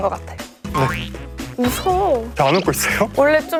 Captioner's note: clenching teeth